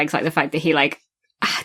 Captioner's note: laughs